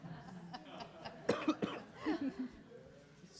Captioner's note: laughter